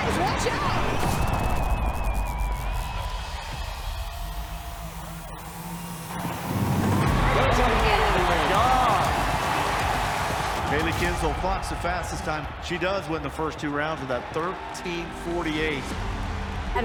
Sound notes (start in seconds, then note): 2.7 crowd cheering